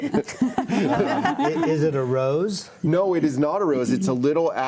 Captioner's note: panelists laughing